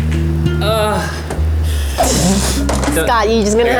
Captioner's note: gasps